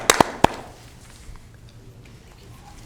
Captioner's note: applause